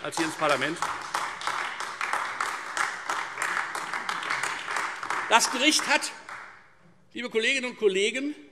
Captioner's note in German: Beifall Freie Demokraten und vereinzelt AfD